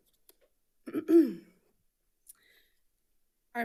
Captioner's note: clears throat